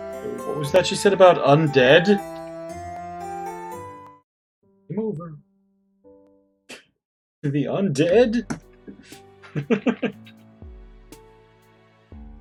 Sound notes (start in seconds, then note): 6.6 chuckles; 9.4 laughs